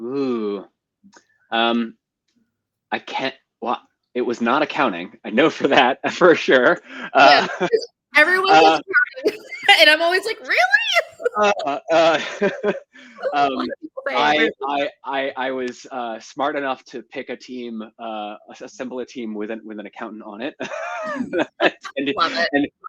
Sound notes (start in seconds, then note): 10.3 laughter